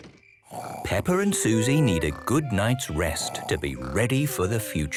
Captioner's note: Peppa and Suzy snoring